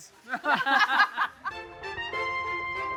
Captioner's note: laughter